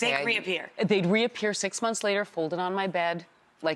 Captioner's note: none